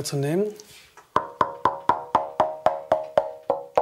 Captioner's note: dull sounds